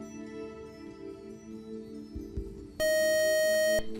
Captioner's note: beep